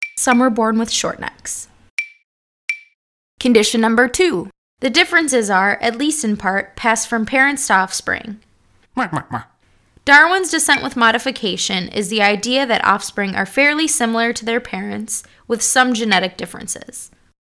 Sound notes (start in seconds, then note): 8.5 Darwin mutters